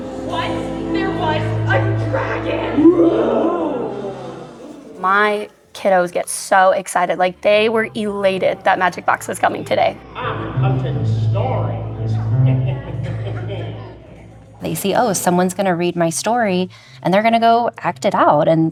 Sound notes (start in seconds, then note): 2.8 roar; 11.8 laughs